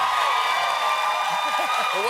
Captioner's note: cheers and applause